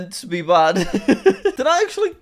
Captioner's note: laughs